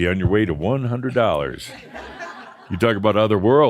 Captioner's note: laughter